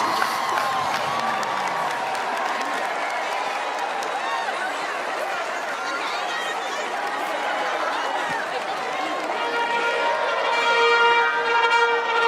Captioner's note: cheers and applause